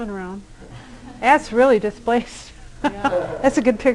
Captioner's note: laughter